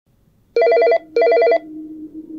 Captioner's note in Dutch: telefoon gaat over